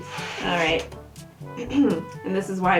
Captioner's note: clears throat